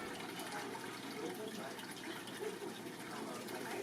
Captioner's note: water bubbling